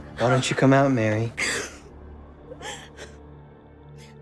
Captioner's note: crying